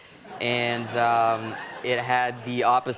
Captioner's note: light laughter